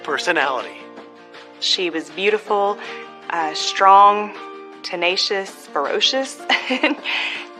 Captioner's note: laughs